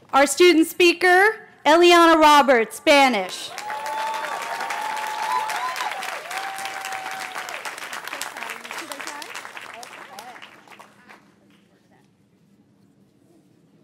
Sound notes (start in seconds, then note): 6.4 cheering; 10.0 applause